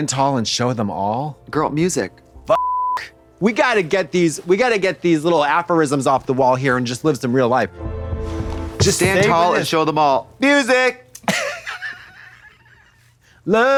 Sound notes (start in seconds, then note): 2.5 beep